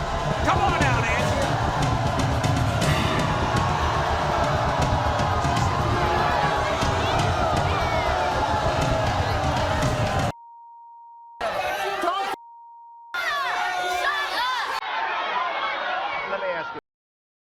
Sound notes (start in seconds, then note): 0.2 audience groans; 3.8 audience shouts; 10.4 beeps; 14.8 audience shouts